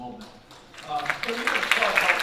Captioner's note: audience applauding